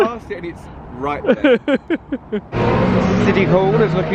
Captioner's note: laughing